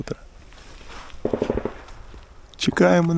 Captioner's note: sound of gunshots